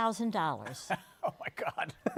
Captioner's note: laughing